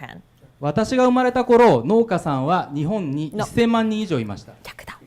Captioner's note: speaking foreign language